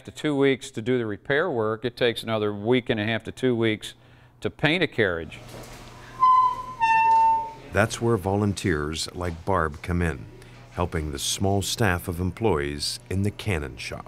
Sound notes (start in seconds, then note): 6.2 wheel creaking